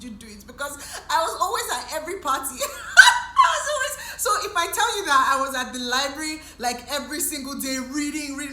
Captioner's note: laughs